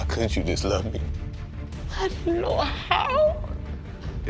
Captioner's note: voice breaking